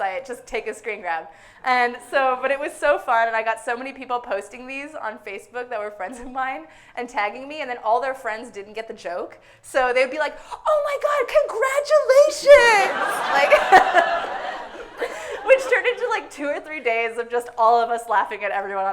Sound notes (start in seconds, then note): 12.4 everyone laughing hysterically